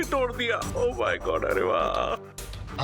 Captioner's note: moans